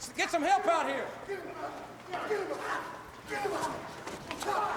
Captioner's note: men chattering